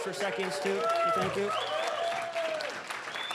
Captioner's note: audience cheering; applause